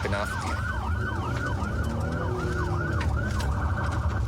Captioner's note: engine guns